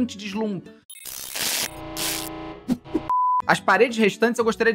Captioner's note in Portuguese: som de erro